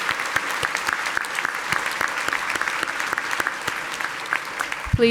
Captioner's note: audience applauding